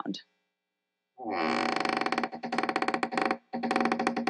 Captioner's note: door creaks